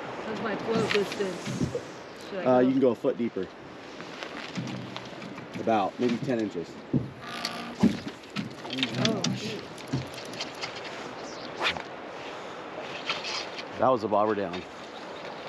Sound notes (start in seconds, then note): 9.6 reel cranking; 10.0 rod whipping